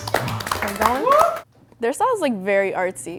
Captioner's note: group applauds